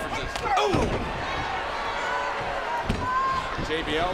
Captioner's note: crowd shouts